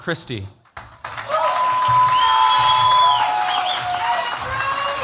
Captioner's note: cheers, applause